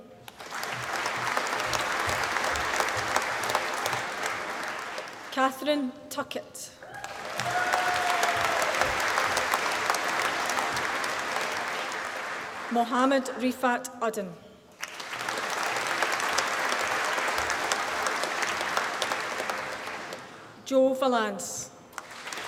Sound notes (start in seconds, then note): 0.2 applause; 6.9 applause; 14.7 applause